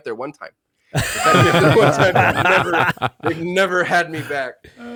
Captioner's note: laughing